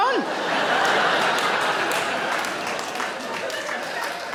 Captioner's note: audience laughing